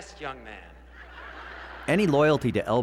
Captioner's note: audience laughs